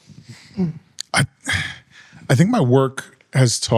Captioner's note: clears throat